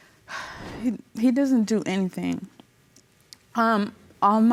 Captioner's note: sighs